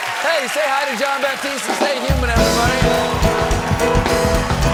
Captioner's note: cheers and applause